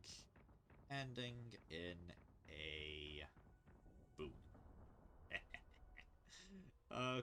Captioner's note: dirty chuckle